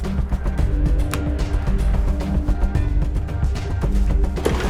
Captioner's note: suspenseful music intensifies; phone clicks